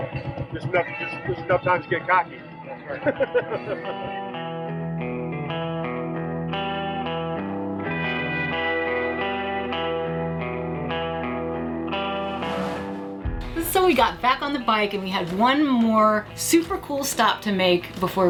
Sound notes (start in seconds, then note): 4.3 laughing